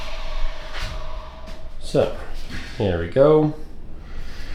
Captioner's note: drill Whirring